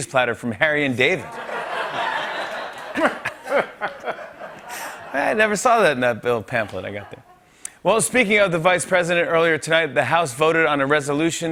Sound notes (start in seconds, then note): 1.2 laughter